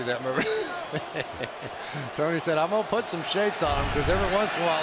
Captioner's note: laughs